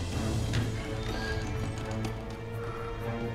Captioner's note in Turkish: Kapı açılma sesi